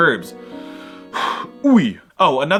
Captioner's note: breath